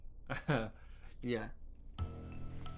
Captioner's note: chuckling